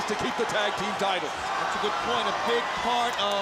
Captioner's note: crowd chatter